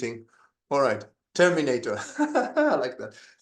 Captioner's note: laughs